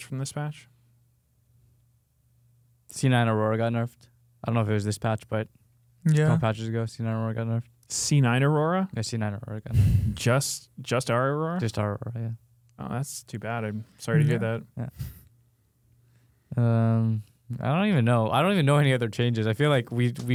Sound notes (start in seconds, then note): 14.1 laughs